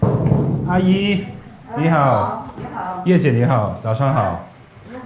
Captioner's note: speaking Chinese